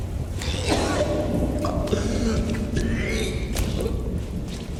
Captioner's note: rain storm continues